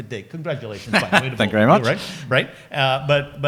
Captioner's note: laughs